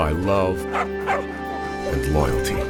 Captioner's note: Clementine barks